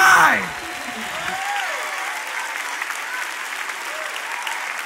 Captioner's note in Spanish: Aplausos